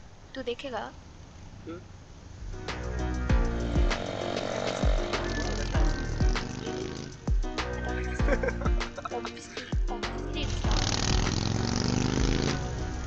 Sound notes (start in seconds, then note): 2.7 soft music plays; 7.6 laughs